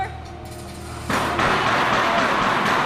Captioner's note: banging continues